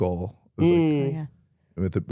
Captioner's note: host hums